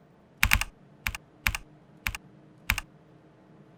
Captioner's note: heavy typing sounds